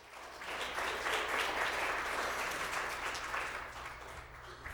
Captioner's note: applause